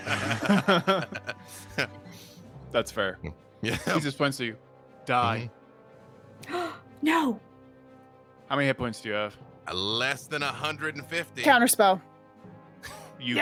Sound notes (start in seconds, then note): 0.0 chuckling; 7.0 gasping